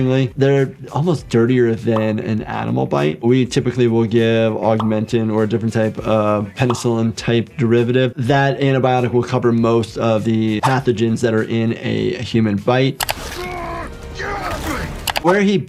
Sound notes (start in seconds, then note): 13.0 screen clicking; 13.1 characters grunting; 14.8 screen clicking